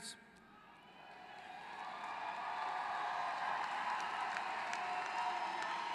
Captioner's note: applause